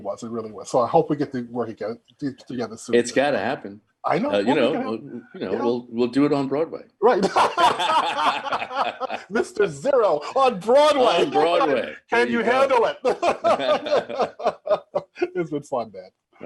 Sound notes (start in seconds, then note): 7.2 both laughing heartily; 13.1 both chuckling